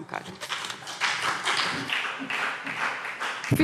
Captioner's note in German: Beifall CDU und BÜNDNIS 90/DIE GRÜNEN